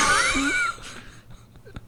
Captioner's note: laughing